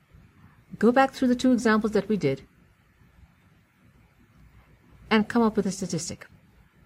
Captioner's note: pause